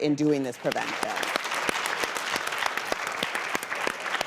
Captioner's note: audience claps